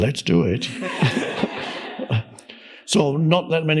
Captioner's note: audience laughs